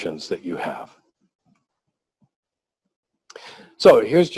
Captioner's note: pause